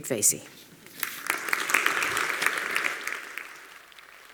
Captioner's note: applause